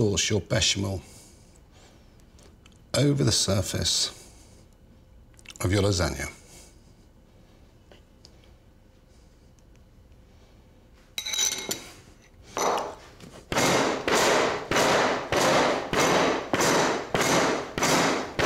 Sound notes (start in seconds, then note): 11.2 spoon banging; 12.6 dish banging